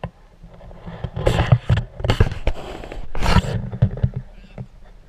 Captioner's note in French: GRINCEMENT DE PENTURE DE GoPro